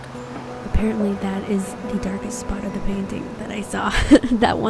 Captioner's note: laughs